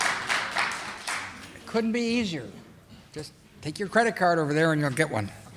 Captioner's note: audience applauding